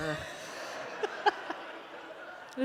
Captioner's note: laughter